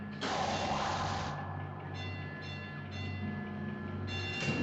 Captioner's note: engines whirring